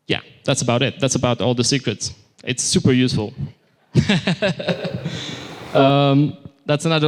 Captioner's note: laughter